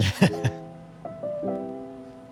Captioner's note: chuckles